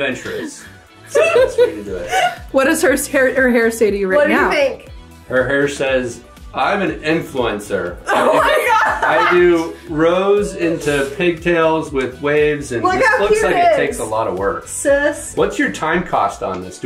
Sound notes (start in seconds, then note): 1.0 laughing